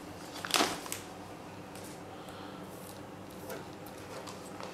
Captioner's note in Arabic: حفيف البلاستيك